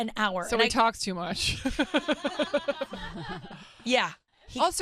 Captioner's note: laughs